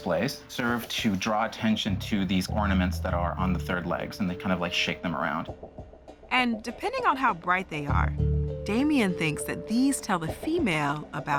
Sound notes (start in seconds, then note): none